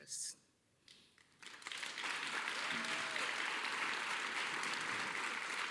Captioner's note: applause